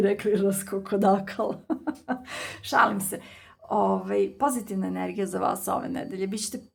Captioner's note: laughs